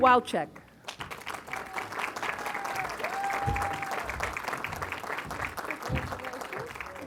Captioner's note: applause